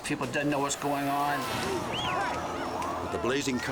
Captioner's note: people shouting